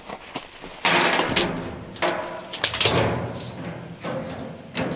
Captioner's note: metal clanking